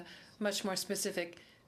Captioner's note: speaking French